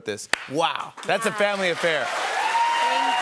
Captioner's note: cheers and applause